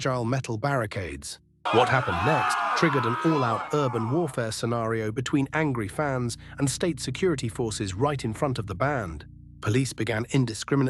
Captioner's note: SFX: chaotic shouting murmur